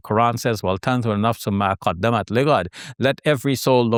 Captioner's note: speaking in Arabic